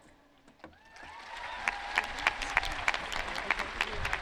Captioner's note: audience cheering